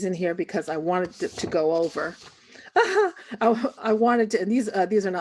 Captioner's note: chuckles